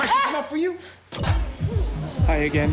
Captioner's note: cry of pain